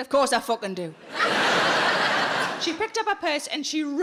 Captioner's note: audience laughing